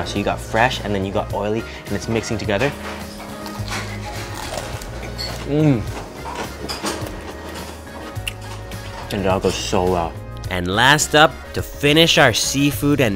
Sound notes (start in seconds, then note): 3.0 tempura crunching